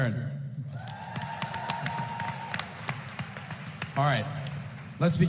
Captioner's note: applause